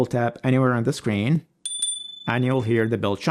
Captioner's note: bell chiming